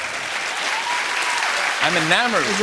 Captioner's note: cheers and applause